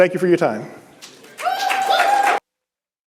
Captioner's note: applause